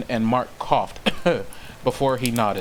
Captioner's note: cough